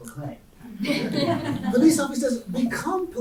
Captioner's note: audience laughing